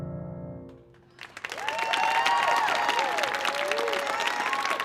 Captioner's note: audience applauding